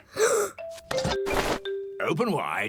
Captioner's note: gasps